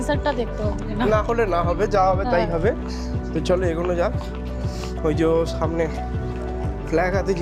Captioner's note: sniffing